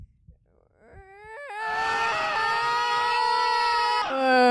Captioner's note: screams in Russian